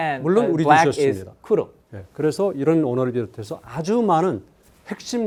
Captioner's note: speaking in Korean